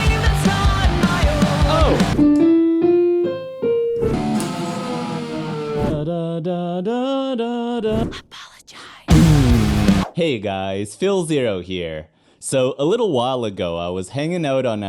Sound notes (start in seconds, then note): 2.8 piano music; 5.7 humming